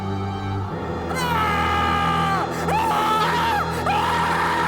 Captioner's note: Aladdin screams